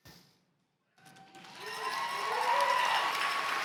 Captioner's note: cheers and applause